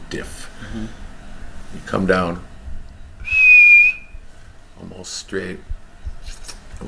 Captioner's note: whistles